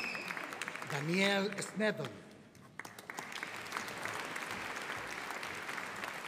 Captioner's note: audience applauding